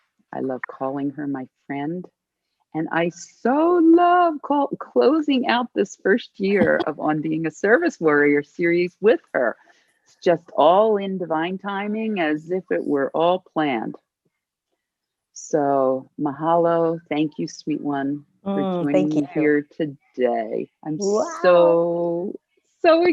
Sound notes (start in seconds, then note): 6.6 laughter